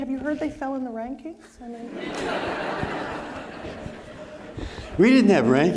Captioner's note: audience laughing